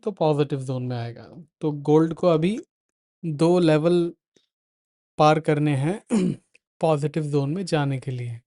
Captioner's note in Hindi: गला साफ़ करने की आवाज़